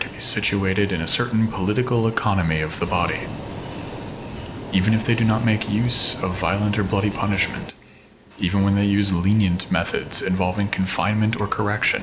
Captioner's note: game audio; footsteps